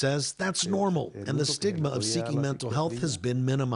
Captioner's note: speaking spanish